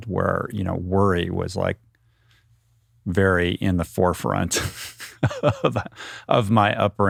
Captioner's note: laughs